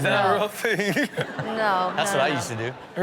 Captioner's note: chuckling